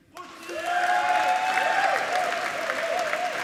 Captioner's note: applauding